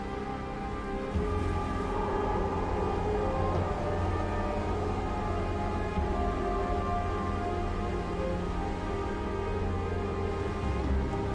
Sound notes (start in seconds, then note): 1.8 wind howling; 3.4 brooding music continues